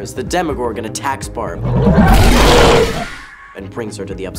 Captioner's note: monster roaring